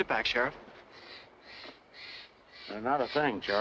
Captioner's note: bird squawking